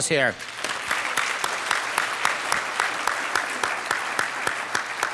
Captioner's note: audience applauding